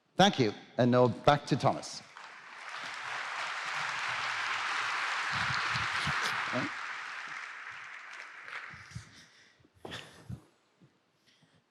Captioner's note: applause